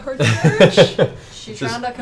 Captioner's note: laughs